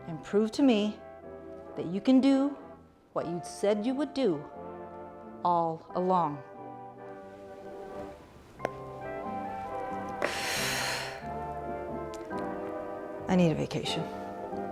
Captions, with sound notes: and prove to me that you can do what you said you would do all along. (mellow old-timey music) (Mrs. McCaw sighs) I need a vacation.